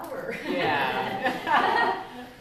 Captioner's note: laughter